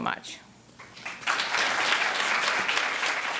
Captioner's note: applause